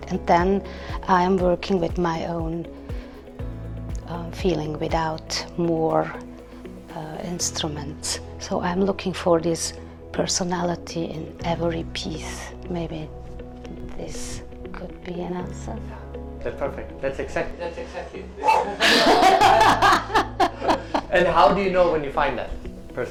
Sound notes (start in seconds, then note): 18.4 laughing